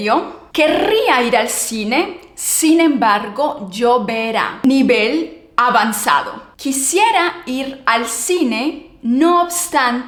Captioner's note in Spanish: carraspeo